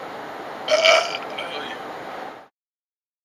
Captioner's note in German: rülps